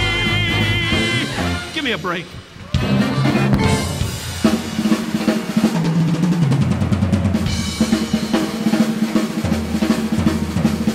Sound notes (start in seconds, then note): 2.7 audience applauding; 2.7 upbeat drumming music